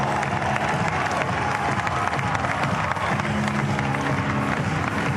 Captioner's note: cheers and applause